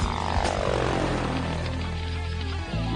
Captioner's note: helicopter humming; explosion